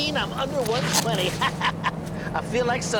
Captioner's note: laughs